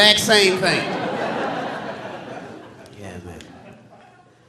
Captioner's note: audience laughing